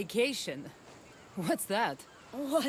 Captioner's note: laughing